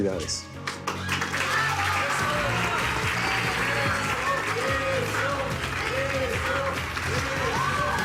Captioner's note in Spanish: Aplausos